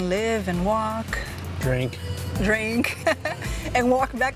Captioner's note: laughs